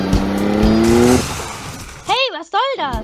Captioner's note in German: Unfallgeräusche